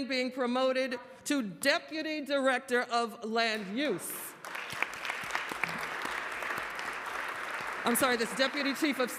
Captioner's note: applause